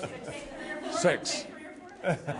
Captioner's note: laughter